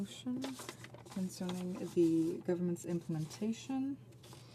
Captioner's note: speaking French